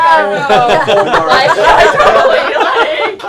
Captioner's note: laughter